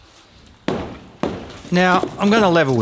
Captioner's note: thud